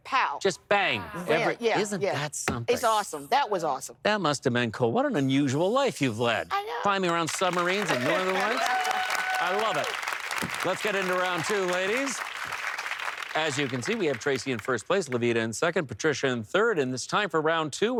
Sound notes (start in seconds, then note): 9.4 applause